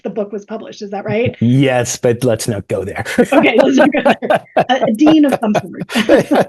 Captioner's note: both laughs